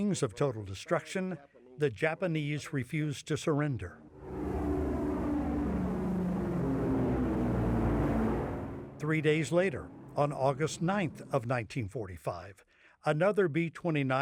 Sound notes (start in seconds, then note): 4.1 airplane engines humming